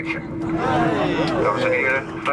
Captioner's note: passengers lightly cheer